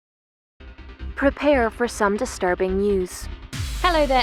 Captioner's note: voiceover